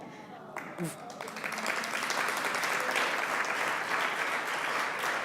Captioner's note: audience applauding